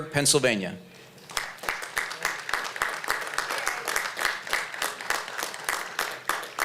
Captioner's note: applause